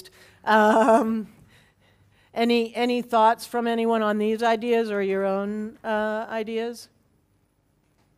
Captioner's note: laugh